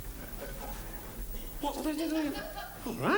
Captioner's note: Morecambe whispers